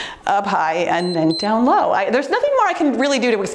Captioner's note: timer beeps